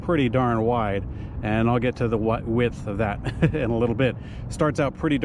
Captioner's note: laughs